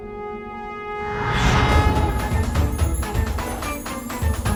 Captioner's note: conch blows